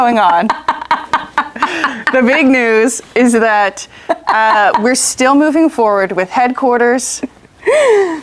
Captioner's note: laughs